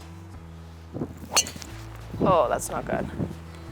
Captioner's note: club strikes ball loudly